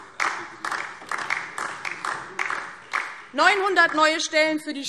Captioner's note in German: Beifall DIE LINKE